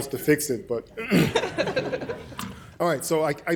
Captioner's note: laughter